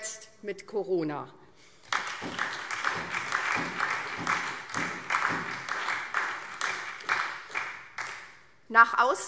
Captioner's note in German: Beifall SPD